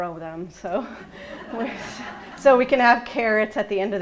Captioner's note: laughing